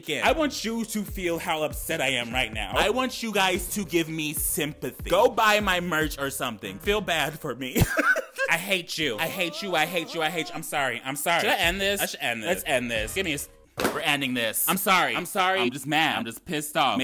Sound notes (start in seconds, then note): 7.7 man laughing; 13.8 loud thud